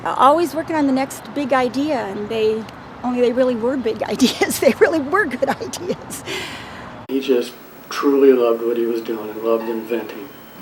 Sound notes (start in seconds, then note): 4.2 laughs